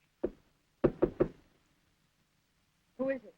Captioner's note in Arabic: بورتر يطرق الباب